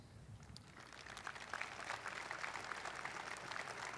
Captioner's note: audience applauding